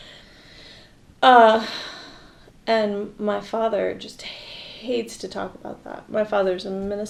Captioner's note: sighs